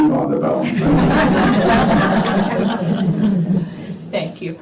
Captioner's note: laughter